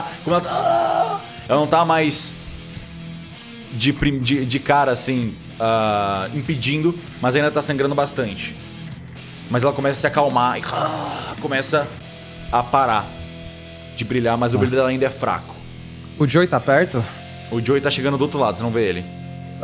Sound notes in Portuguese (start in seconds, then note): 0.0 Grunhidos; 10.5 grunhidos